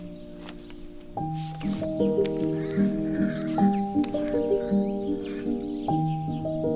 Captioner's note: note rustling; horse whinnying